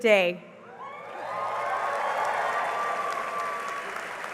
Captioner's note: cheering and applause